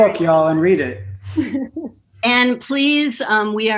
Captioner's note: chuckles